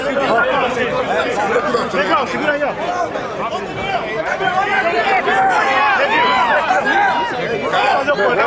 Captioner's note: fans yelling and talking